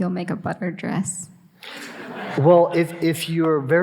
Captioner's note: audience laughing